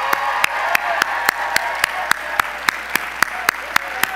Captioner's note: audience applause